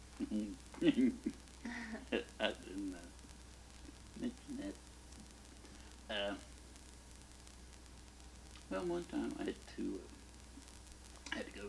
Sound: laughs

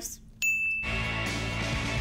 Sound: bell dings; upbeat music

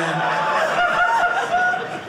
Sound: audience laughing

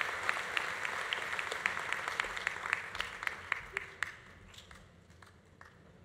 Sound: audience applause continues

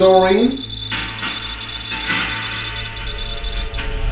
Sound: device beeping

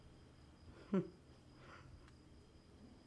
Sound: gentle lauhing

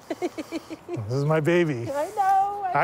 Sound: laughing

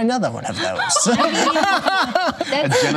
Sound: laughter

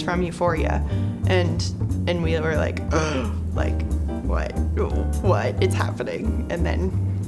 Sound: gasps

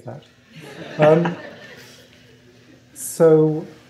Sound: laughter

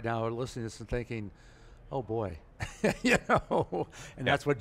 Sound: laughs

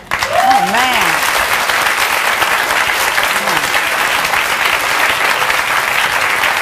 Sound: audience cheering and clapping

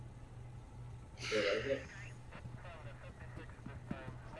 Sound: sighing

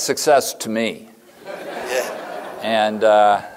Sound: laughter

